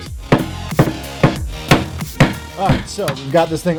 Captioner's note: hammer pounding